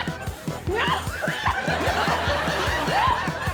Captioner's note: laughs